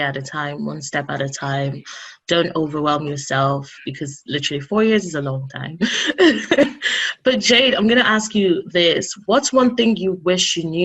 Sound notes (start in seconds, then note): 5.9 laughing